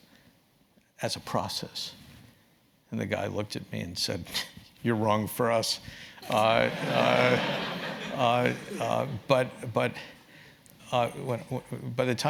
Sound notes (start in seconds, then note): 6.2 laugh